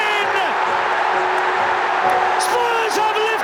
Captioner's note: crowd erupts